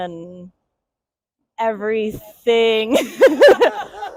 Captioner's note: laughs